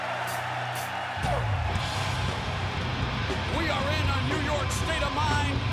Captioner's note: crowd cheering